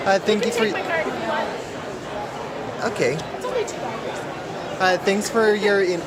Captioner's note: background mumbling